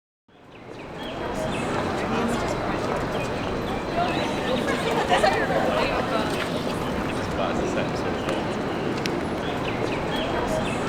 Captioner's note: campus ambience